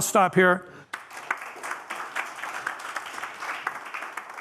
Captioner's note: applause